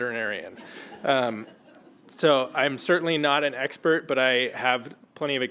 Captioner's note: laugh